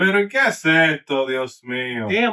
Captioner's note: speaking Foreign Language